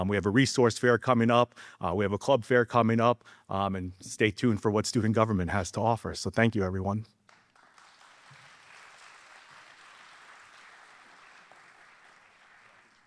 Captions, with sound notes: We have a Resource Fair coming up, we have a Club Fair coming up, and stay tuned for what Student Government has to offer. So thank you everyone. (audience applauding)